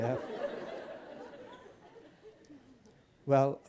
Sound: laughter

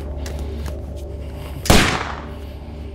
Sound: gunshot

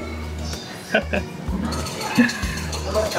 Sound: chuckles

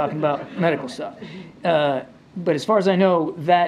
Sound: laughter

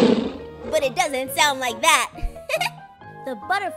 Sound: laughs

